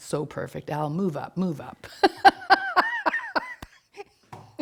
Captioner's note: laughs